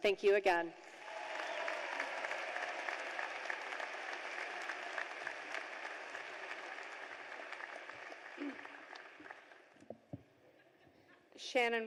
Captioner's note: cheers and applause